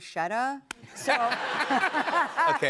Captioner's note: laughter